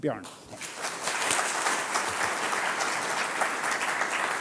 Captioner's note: applause